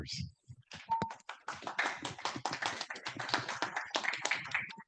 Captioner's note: attendees clapping